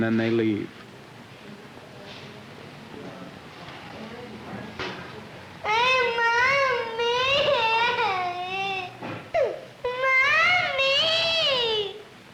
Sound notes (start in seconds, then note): 9.3 crying